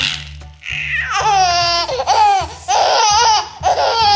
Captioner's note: laughing